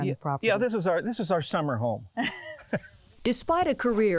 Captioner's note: laughs